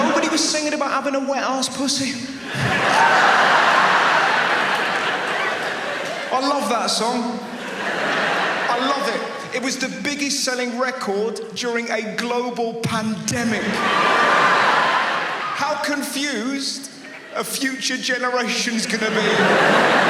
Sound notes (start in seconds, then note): 1.9 audience laughs; 13.4 audience laughs; 18.6 audience laughs